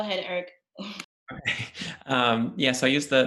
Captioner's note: chuckles